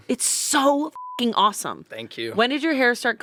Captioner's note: beep